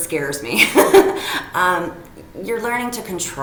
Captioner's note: person laughing